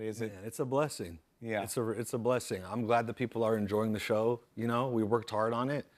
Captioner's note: none